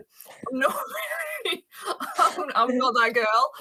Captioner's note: chuckles